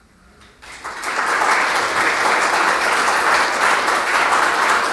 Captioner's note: attendees clapping